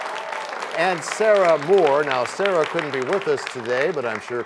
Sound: cheers and applause

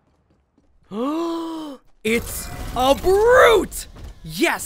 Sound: gasp

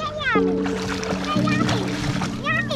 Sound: water splashes; speaking Dutch

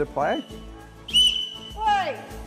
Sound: whistle blows

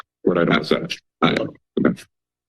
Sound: audio distorted

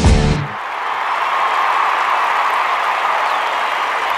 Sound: crowd cheers

